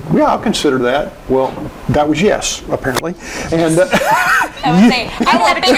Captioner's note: laughing